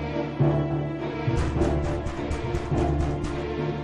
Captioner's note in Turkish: Kapı sesi